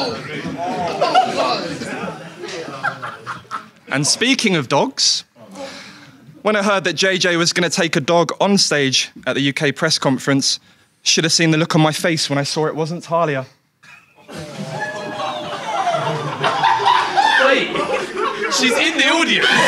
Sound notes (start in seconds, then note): 14.2 audience groans; 19.4 audience laughs